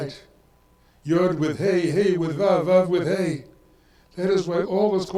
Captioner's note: speaks in foreign language